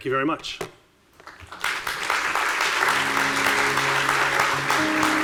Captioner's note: audience applauding